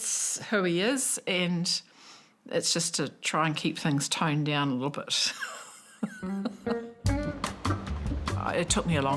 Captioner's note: laughs; funky music